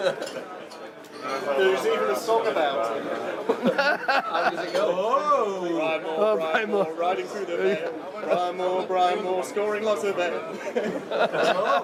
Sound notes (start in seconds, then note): 0.0 chuckles; 2.8 laughs; 10.5 all chuckle